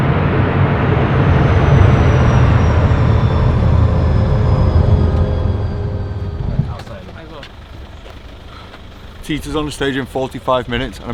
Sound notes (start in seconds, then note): 2.4 engines wind down